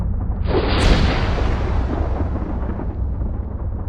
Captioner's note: thunderclap